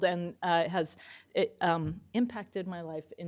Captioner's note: none